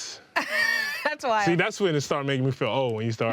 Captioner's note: laughing